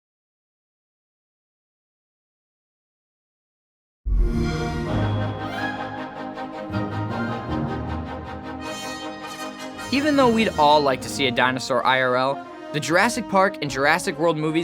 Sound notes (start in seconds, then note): 4.1 xbox sound